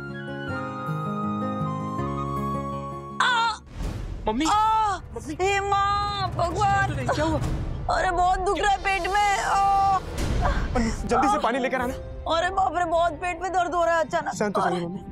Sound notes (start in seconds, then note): 3.2 Sushila moaning; 3.2 Sushila screaming